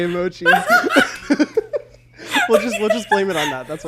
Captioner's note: both laugh